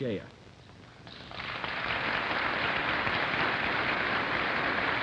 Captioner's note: applause